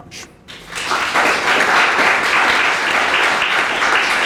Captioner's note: audience applauds